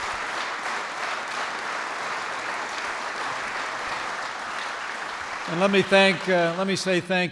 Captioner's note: applause